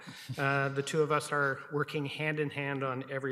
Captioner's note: laughs